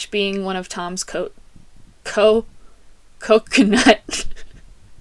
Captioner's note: laughter